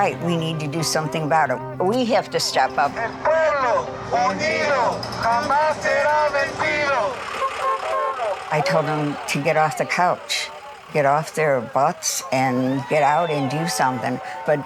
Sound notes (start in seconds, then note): 3.9 protesters speaking Spanish; 7.6 horn honking